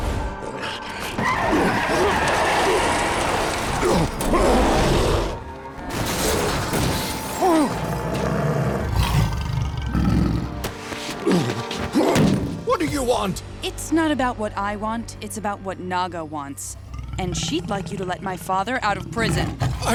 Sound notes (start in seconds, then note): 3.9 growling; 7.4 groaning; 7.4 growling; 10.9 groaning